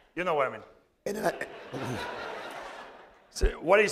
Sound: laughter

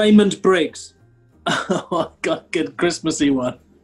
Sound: chuckles

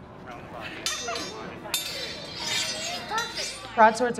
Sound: swords clashing

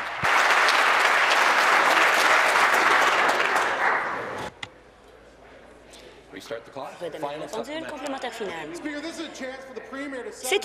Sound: applause

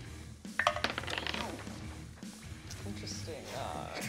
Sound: dice clicks

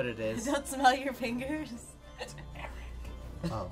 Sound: whispers

